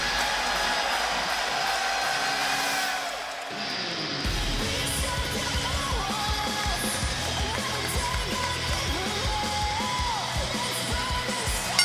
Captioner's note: crowd cheering